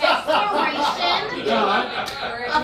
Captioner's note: audience laughing